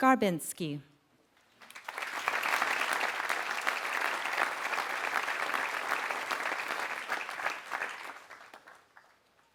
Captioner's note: applause